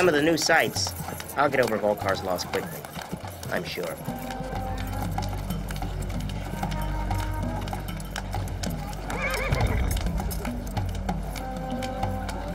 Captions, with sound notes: With some of the new sights, I'll get over Vulkar loss quickly, I'm sure. (mysterious orchestral music) (horse whinnies)